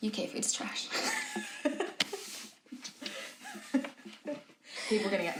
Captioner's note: both laughing